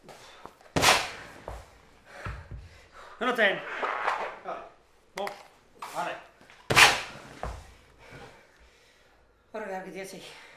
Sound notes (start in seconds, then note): 0.7 stone hits beanbag; 3.3 squeaking on leather; 6.6 stone hits beanbag